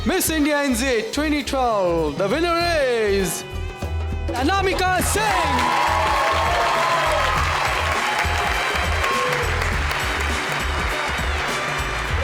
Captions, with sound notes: Miss India NZ 2012 the winner is Anamika Singh! (crowd cheers) (Indian music)